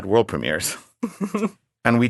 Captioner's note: laughing